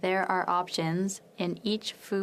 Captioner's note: speaking French